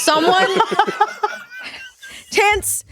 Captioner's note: laughing